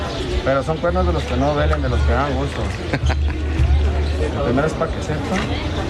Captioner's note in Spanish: risas